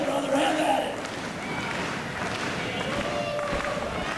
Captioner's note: crowd claps in rhythm